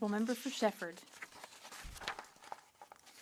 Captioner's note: speaking French